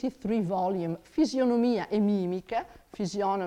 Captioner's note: speaks in foreign language